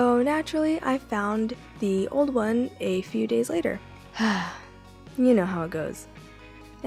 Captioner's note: sigh